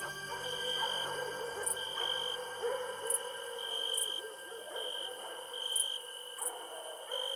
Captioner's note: dogs continues barking; insects continue chirping